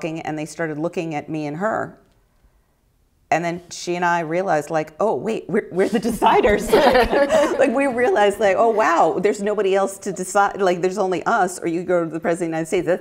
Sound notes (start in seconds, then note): 6.1 chuckling; 6.3 laughter